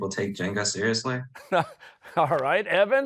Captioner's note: chuckling